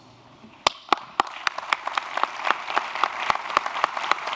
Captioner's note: applause